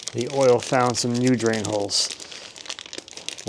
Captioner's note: none